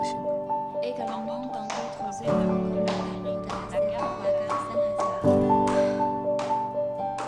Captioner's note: French